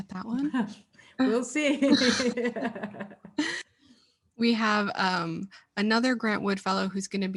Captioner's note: laughs